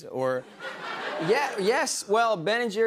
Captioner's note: laughter